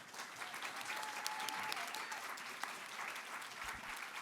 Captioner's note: audience clapping; audience cheering